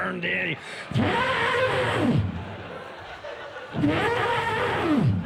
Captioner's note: mimics elephant trumpeting